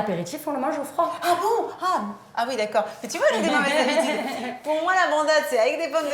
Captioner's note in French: rires